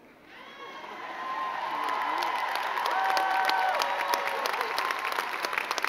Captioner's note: crowd cheering and clapping